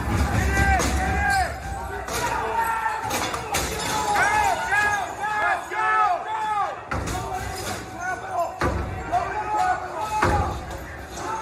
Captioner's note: banging